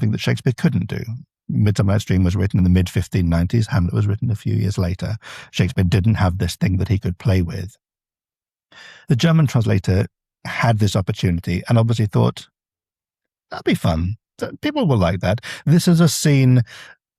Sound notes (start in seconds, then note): none